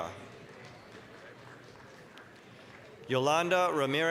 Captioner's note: applause